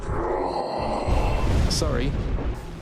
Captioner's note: growl